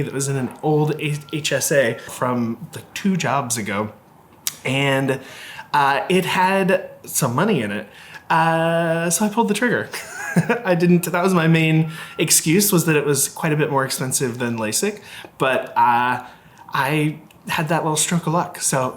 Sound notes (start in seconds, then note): 9.8 laughing